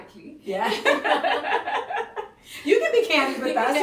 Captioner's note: laughing